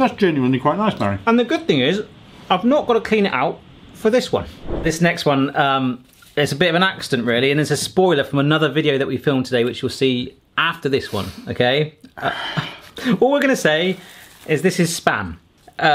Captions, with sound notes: - That's genuinely quite nice, Barry. - And the good thing is, I've not gotta clean it out for this one. (screen wipe whooshes) This next one, it's a bit of an accident really. And it's a spoiler from another video that we filmed today which you'll see after this one, okay? All we're gonna say, is this is Spam.